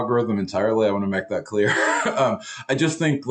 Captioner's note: chuckles